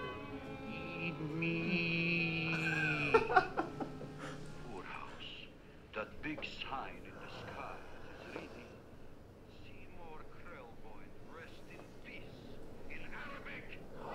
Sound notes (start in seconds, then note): 2.9 laughs; 4.3 TV continues in background; 7.1 yawns; 10.8 TV continues in background